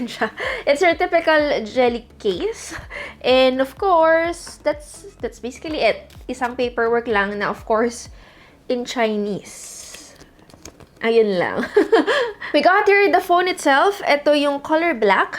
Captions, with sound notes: It's your typical jelly case. And of course, that's basically it. Only one paperwork that is, of course, in Chinese. That's all. (chuckles) We got here the phone itself, this is the color black.